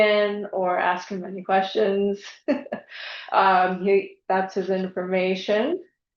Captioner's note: laughs